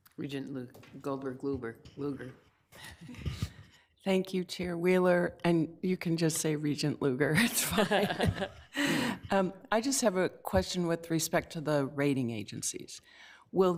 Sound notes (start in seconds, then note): 7.5 laugh